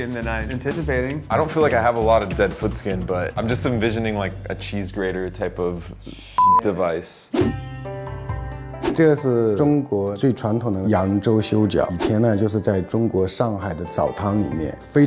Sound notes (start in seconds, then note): 6.4 beep; 7.4 asian string music